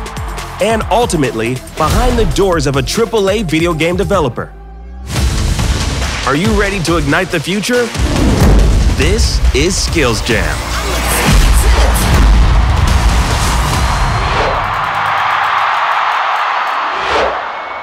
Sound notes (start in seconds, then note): 14.3 crowd cheering